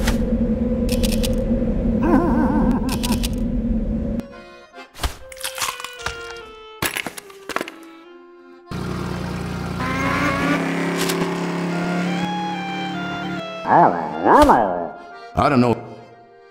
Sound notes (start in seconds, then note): 2.0 Pyro giggles